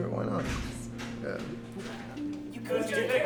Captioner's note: door Opening